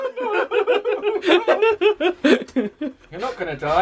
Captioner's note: both laugh